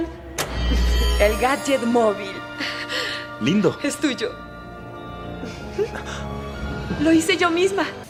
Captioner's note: giggles